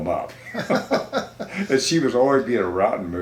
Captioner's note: both laughing